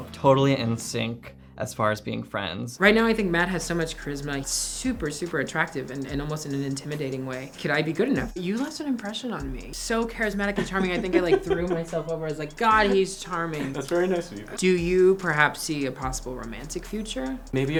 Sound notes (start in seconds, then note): 12.1 laughs